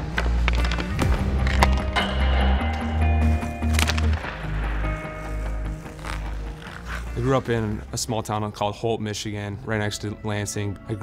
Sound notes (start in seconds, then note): 2.0 ding; 3.5 puck clacking